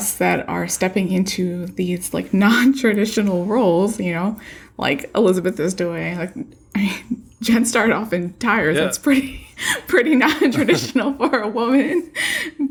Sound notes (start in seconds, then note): 10.2 laughter